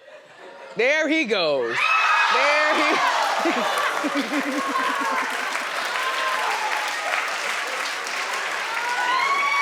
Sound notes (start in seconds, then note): 4.5 audience applauding and cheering